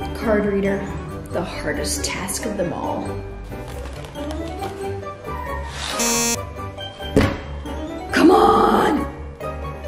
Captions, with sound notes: - Card reader. The hardest task of them all. (beeps) (slams table) Come on.